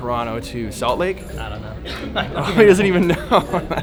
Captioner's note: laughs